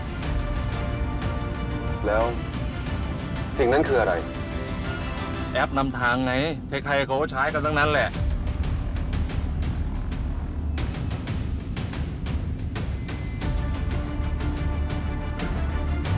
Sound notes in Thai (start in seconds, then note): none